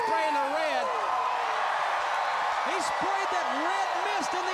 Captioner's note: crowd cheering